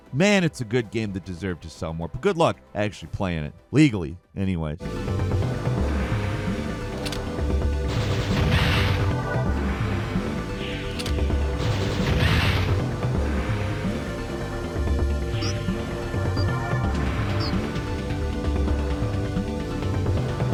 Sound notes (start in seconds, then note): 5.0 explosions blasting; 5.0 lively upbeat music; 15.4 electronic beeping